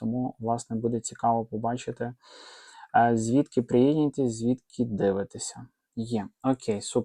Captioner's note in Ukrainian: сопіння